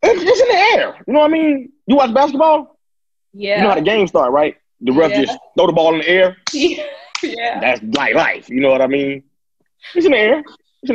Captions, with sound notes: It's just in the air, you know what I mean? You watch basketball? - Yeah. - You know how the game start, right? The ref just throw the ball in the air. (laughing) That's my life, you know what I mean? It's in air, it's in air.